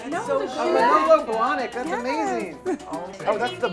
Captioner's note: chorus of praises and compliments